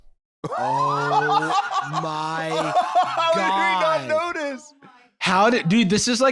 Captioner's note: laughing